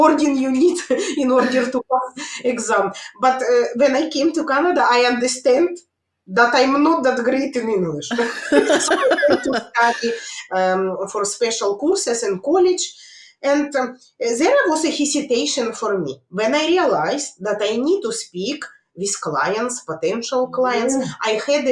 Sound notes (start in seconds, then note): 8.1 laughs